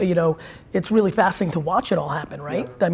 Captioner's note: none